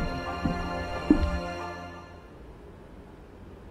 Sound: footsteps

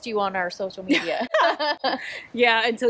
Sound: laughs

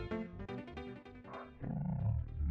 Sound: spooky hand noises

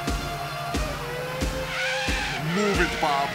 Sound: tires screech

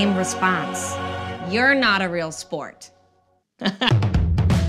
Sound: laughs; rhythmic music

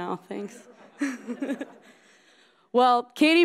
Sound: laughing

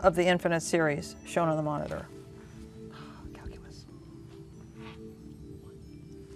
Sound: whispering

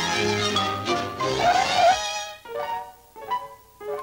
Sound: sound of brakes stopping

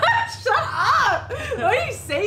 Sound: laughs

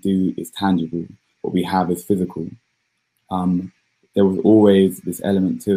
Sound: erm

